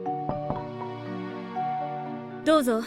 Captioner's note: knock, knock